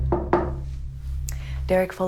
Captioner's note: knocking